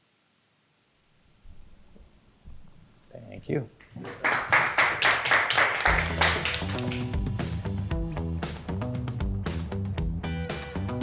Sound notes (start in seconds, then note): 3.8 all applauding; 5.8 upbeat, jazzy music